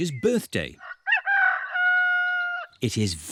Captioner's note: roster crows